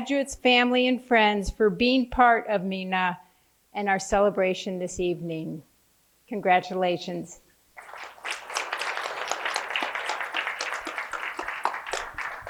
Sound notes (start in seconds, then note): 7.7 applause